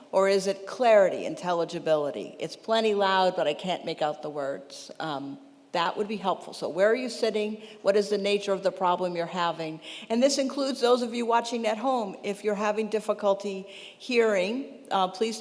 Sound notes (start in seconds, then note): none